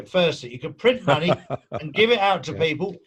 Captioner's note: laughing